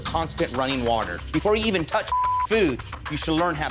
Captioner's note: beep